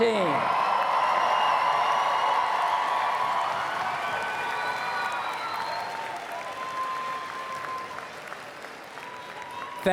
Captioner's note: cheers and Applause